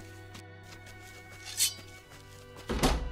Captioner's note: knife slicing; door slamming